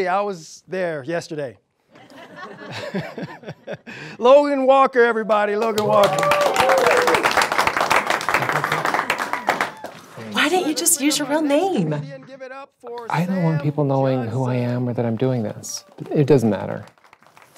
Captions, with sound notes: I was there yesterday. (audience laughs) (man laughs) Logan Walker everybody. Logan Walker. (audience cheers) - Why didn't you just use your real name? - I don't want people knowing who I am or that I'm doing this. It doesn't matter.